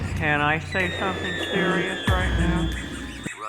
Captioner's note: dog toy squeaking